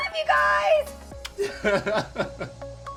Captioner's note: lips smacking; laughing